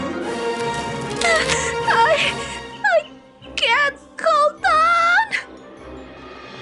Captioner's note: whimpering